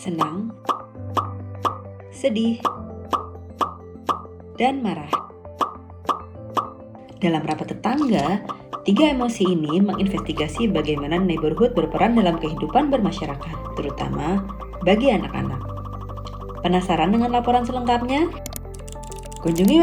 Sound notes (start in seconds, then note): 0.7 popping of happy emoji; 4.9 popping of sad emoji; 7.6 popping of angry emoji